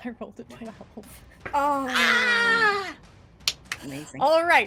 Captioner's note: screams